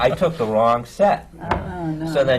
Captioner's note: laughter